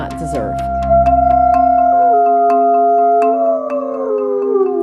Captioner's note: wolf howling